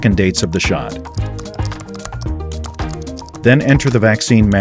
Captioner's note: keyboard typing